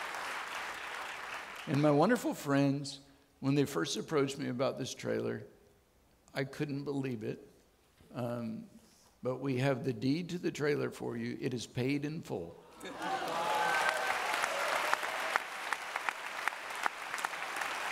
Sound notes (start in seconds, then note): 12.8 audience clapping